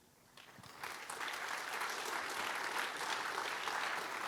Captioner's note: applause